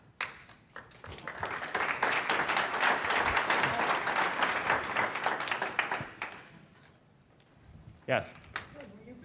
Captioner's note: applause